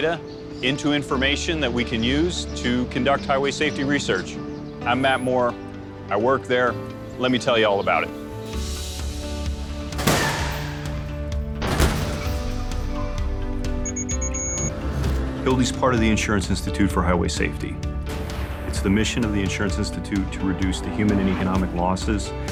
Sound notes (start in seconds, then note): 10.0 car crashing; 13.8 beeping; 18.1 hissing